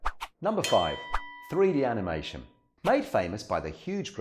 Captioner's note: bell rings